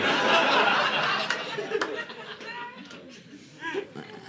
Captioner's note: audience laughing